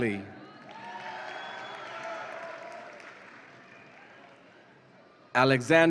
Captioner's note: audience applauds and cheers